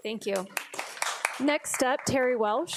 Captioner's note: audience applauding